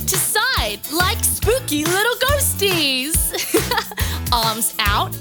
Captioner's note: laughs